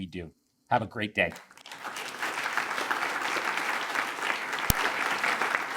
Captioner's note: attendees applaud